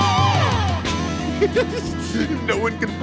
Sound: giggling

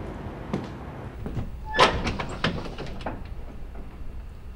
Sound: closet door squeeks

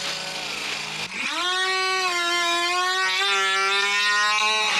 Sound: hedge trimmer screaming

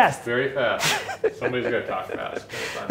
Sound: laughs

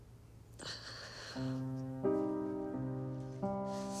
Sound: heavy sigh; calm piano playing

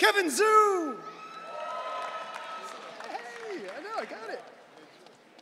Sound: audience cheering

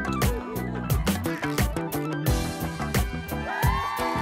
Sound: women whooping

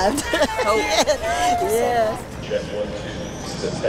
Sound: laughing

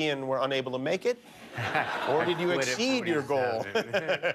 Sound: laughter

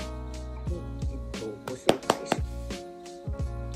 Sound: clap

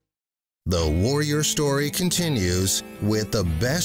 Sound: voiceover

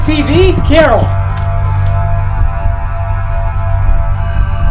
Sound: frantic pacing

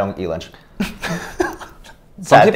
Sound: laughing

